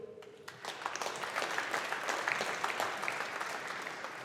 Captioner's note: audience applauding